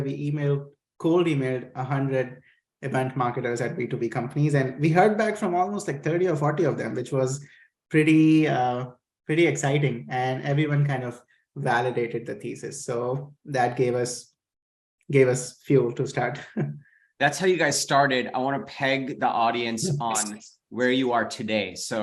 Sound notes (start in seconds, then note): 16.4 chuckles